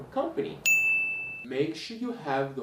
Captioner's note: bell rings